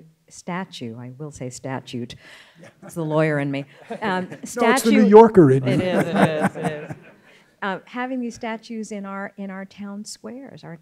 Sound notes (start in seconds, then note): 3.7 scattered laughing; 6.0 laughs